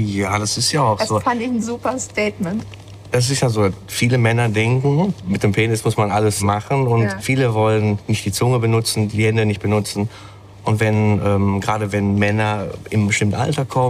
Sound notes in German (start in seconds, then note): none